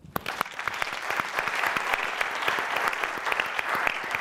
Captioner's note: audience clapping